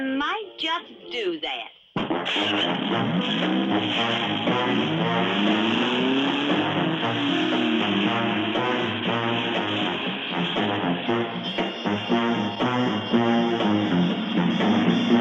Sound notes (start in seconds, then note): 2.3 engine rumbling; 9.6 upbeat energetic music